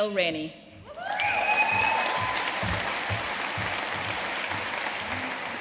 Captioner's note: audience cheering and applauding